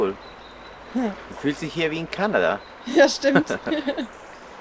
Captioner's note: laughter